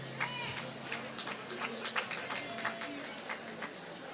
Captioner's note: applause